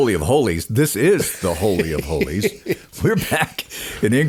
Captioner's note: laughing